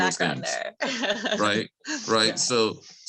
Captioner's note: laughs